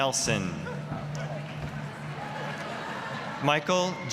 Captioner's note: audience laughing; applause